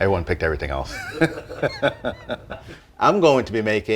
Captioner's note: laughs